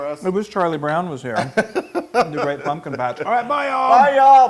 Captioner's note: laugh